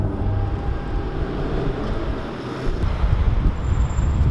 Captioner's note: city noises